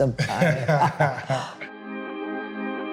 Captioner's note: everyone laughing; ambient music